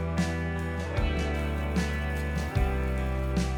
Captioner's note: sizzling